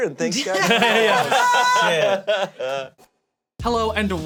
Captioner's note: all laughing